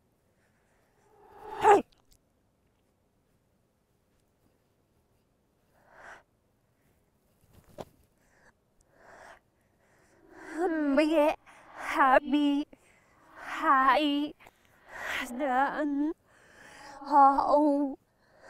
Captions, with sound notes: (Grunt) (Heavy breathing) Maybe, I don’t know